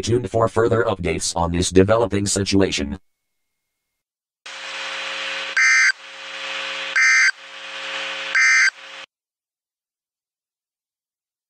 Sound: audio Failure

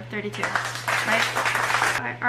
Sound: crowd applauding

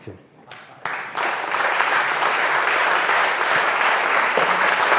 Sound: audience applauds

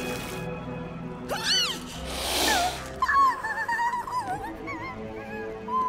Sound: whimpering

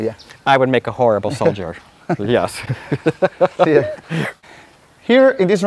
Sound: laughter

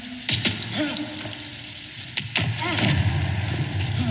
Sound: two gunshots; Maurizio groaning

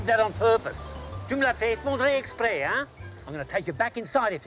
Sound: speaks foreign phrase

